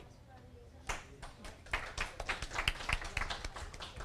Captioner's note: audience applause